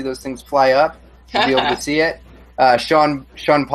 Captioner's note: laughs